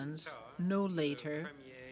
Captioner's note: speaking French